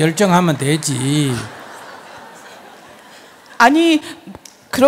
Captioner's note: audience laughs